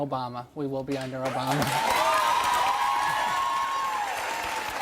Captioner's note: audience cheering